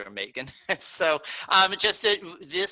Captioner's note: laughing